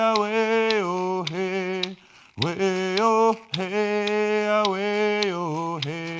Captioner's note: none